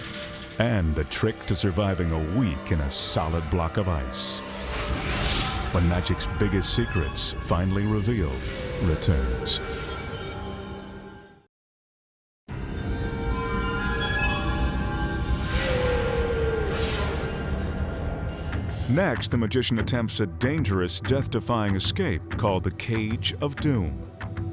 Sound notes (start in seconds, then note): 9.9 mysterious music; 12.2 graphics whooshing; 12.5 mysterious music